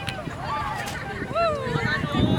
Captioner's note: kite falls